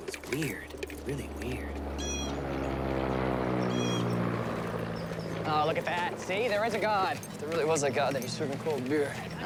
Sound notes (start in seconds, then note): 1.5 airplane passing